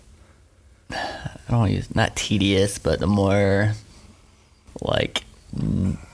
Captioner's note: sighing